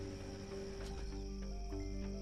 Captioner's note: engine shuts off